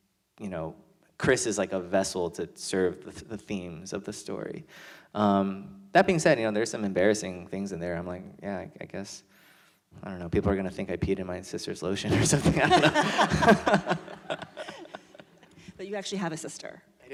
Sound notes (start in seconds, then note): 14.7 laughter